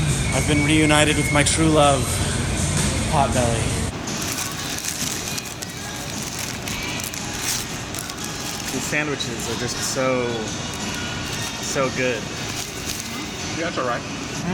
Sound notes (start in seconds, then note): 4.0 paper wrappers rustling